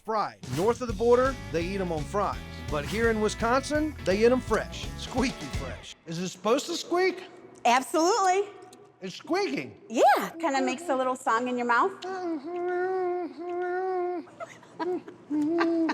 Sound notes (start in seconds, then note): 12.0 humming, chewing; 14.3 laughing